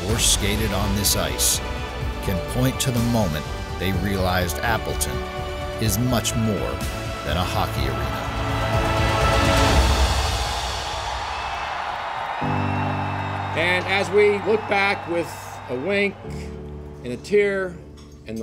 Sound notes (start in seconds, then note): 8.6 cheering; 8.6 dramatic music